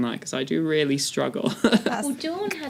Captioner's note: laugh